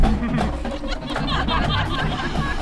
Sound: laughter

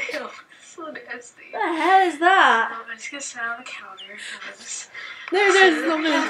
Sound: laughs

